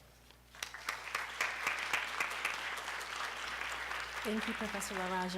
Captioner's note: applause